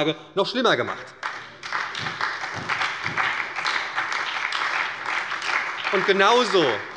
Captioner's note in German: Beifall bei der SPD